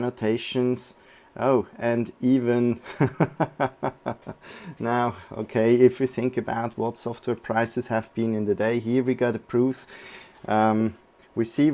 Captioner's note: laughing